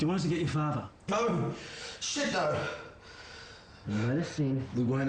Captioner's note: exhales loudly